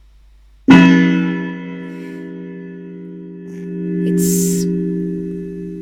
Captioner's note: clock chimes